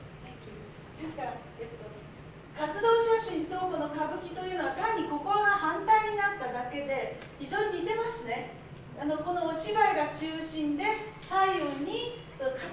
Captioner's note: speaking Japanes